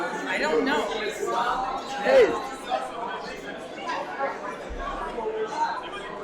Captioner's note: audience faintly talking